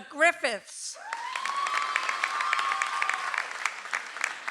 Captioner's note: audience applauds